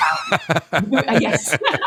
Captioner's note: laughter